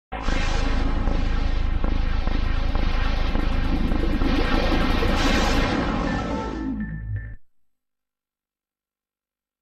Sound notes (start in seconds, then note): 0.5 deep digital heartbeat; 6.6 digital keyboard music plays